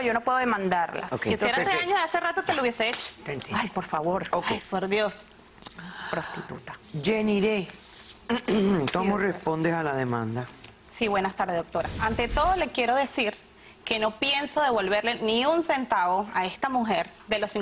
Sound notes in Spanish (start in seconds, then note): 8.3 carraspea